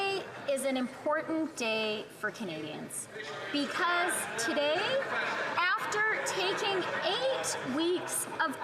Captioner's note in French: voix de l'interprète